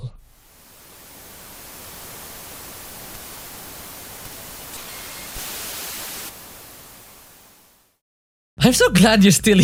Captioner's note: tv static noises